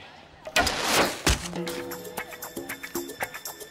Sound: arrow shooting

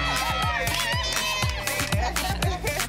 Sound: group cheering

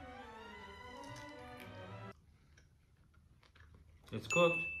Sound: rib crunching

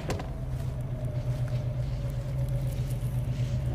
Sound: ominous wind blowing

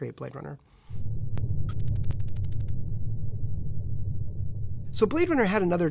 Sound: electronic typing

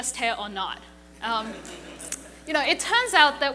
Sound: laughing

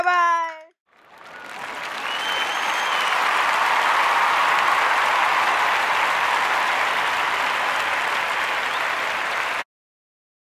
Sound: clapping and applause

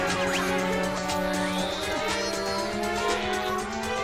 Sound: straining

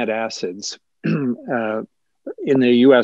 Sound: clears throat

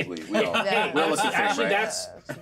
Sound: speaker laughs

